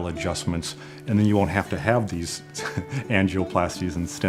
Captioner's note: laughs